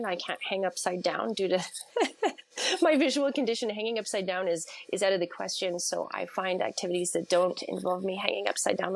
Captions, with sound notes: I can't hang upside down due to (laughs) my visual condition. Hanging upside down is out of the question. So, I find activities that don't involve me hanging upside down